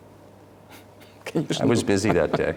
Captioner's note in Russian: Смех